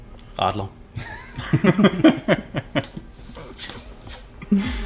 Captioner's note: laughs